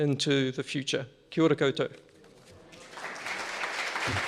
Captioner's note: audience applauds